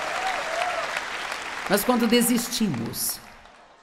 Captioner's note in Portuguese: audiência aplaude